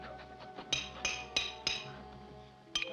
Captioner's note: hammering